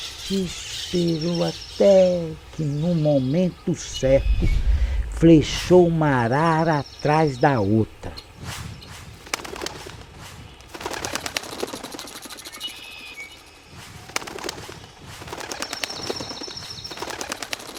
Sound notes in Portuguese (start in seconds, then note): 3.9 Vento da flecha; 8.1 Vento da flecha; 10.4 Bater de asas; 13.9 Vento da flecha; 15.5 Bater de asas